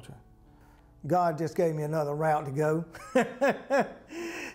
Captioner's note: laughter